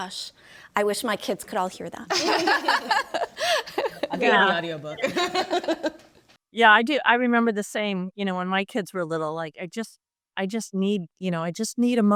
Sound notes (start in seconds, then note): 2.1 group laughs; 5.0 laughs